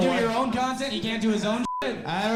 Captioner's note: beeps